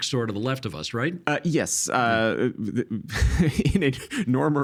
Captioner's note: chuckling